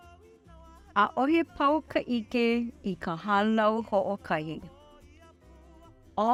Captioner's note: narrator speaking in Hawaiian language